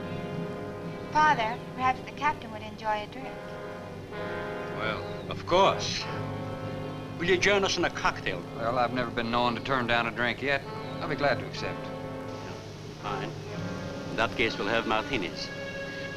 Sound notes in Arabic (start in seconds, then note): 5.9 يضحك